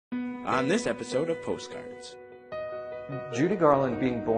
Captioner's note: voiceover